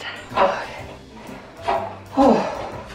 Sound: sighs

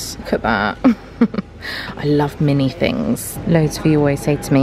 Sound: chuckles

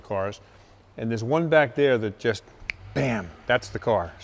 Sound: snap

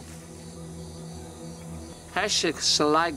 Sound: birds singing

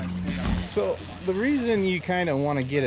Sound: reel cranking

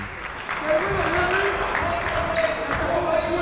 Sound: clapping

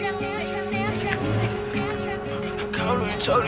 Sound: engine roaring

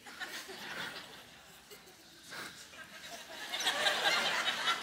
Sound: audience laughs

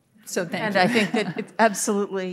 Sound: audience laughing

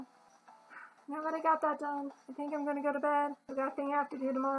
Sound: tiny huff

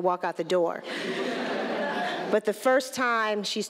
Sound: laughter

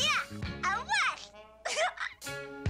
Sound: chuckles

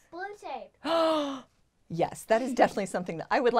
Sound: gasps

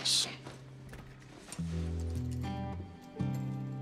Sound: rustling

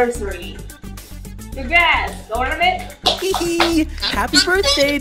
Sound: I'm clapping and Bottle giggles

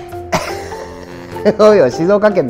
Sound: laughs

